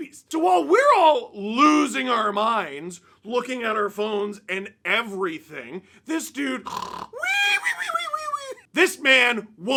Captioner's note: sleep noises